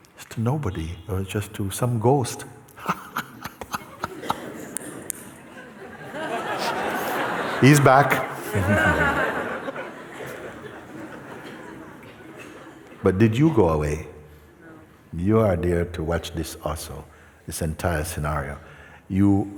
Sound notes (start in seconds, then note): 4.9 laughter; 10.3 laughter